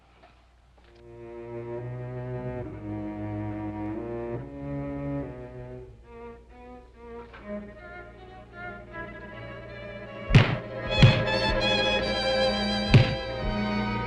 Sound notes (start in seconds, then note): 1.1 somber music; 7.0 suspenseful music; 10.3 punches thudding